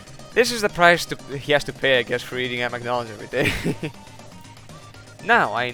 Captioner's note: corny laugh